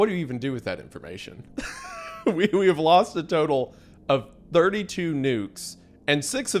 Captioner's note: laughs